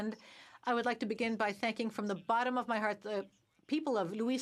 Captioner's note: speaking French